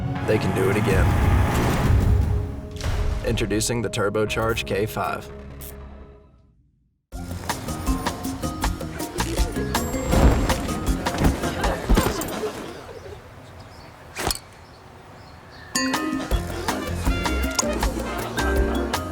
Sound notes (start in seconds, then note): 7.2 bright music; 10.0 cloth wooshing; 12.2 thud; 14.1 clink